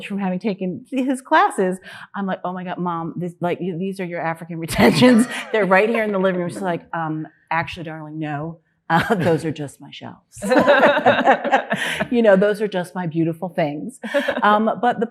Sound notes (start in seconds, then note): 4.8 laughing; 10.4 panelists laughing